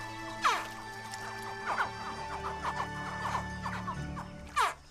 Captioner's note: chittering